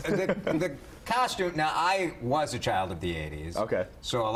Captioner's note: laughter